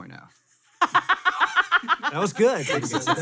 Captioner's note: laughs